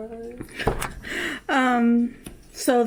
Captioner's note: laughs